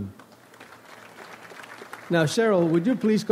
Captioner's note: audience applauds